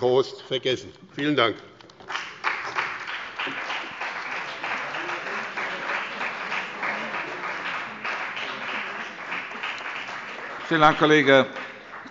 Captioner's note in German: Beifall bei dem BÜNDNIS 90/DIE GRÜNEN und der CDU